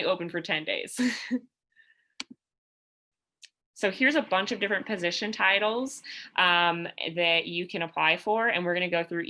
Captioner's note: laughter